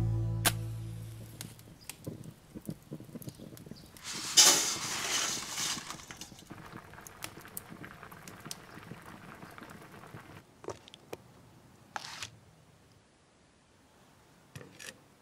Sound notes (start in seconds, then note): 0.4 match striking; 1.6 birds chirping; 1.9 fire crackling; 4.0 pasta shaking; 6.2 water boiling